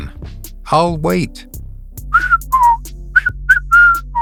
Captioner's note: whistles